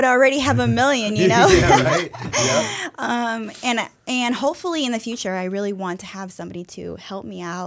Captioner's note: chuckle